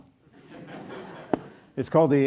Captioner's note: audience laughs